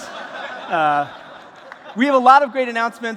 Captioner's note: laughter